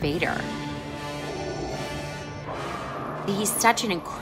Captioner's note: darth vader breathing